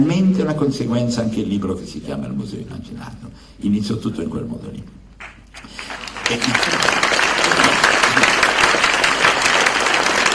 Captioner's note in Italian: Applauso